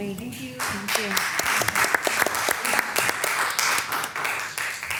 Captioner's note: people applauding